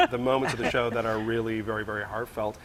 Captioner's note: laughing